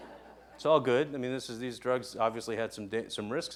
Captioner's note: laughing